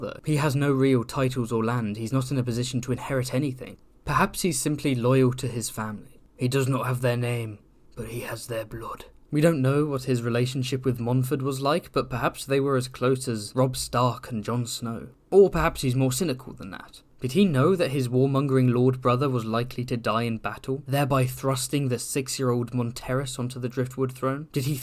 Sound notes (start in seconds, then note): 6.3 ned stark accent